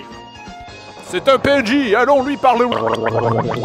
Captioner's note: glub glub glub